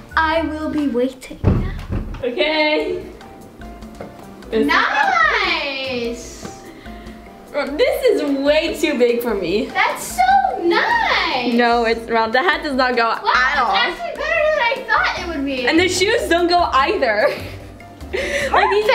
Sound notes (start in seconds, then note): 3.0 upbeat latin music; 7.9 laughs; 18.1 laughs